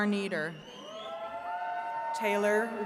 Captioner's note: attendees cheering